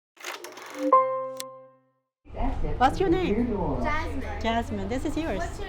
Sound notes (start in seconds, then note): 0.7 record crackling